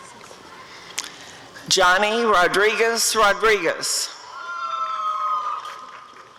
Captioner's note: applause and cheering